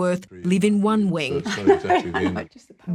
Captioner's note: laughs